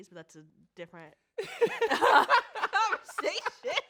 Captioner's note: both laugh